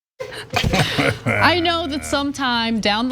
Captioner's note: laugh